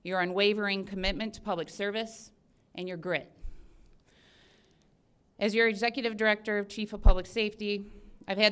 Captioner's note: none